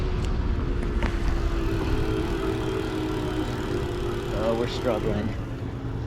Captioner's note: bike engine roaring